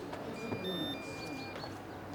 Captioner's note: mayor's cellphone ringing